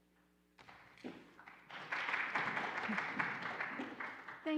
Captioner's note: applauding